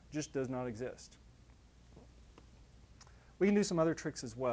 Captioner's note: pause